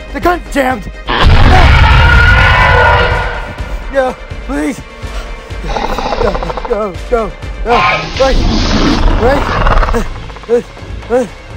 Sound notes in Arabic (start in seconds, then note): 1.1 هرمس يزأر